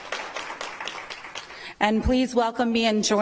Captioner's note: applause